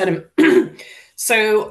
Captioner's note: coughing